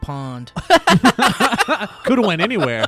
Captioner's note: guys laughing